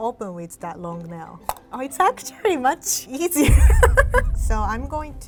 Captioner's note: can pops